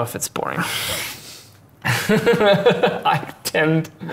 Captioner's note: laughing